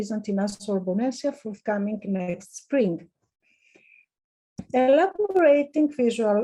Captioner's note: speaking in foreign language